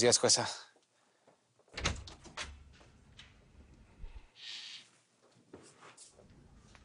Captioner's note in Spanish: Ruido en una puerta